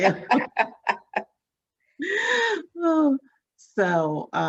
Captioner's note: both laughing